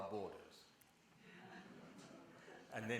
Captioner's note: laughter